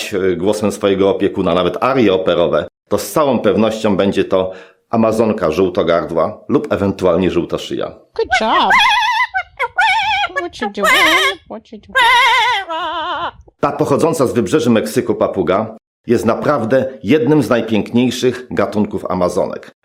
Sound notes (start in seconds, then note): 10.3 parrot singing opera aria